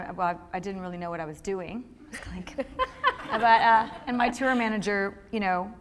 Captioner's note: laughter